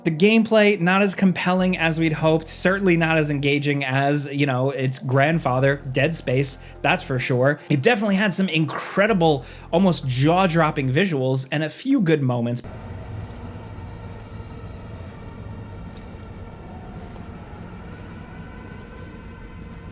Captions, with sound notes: the gameplay not as compelling as we'd hoped, certainly not as engaging as you know, its grandfather, "Dead Space," that's for sure. It definitely had some incredible, almost jaw dropping visuals, and a few good moments, (tense dramatic music) (footsteps thudding)